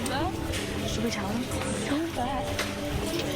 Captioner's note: whispered